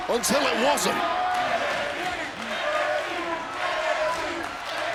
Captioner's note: audience chanting